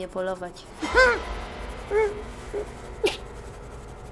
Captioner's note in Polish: szloch Redaktora